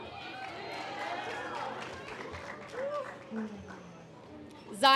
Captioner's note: audience applause